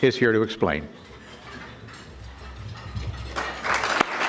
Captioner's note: audience clapping